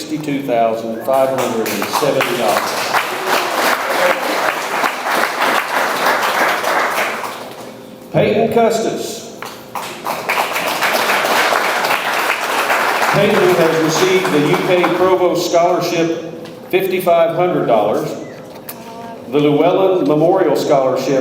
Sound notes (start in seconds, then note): 0.9 audience member whistles; 1.0 audience applauds; 9.6 audience applauds